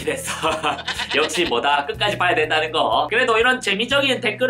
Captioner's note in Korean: 하하